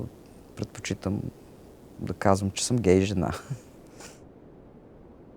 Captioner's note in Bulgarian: смее се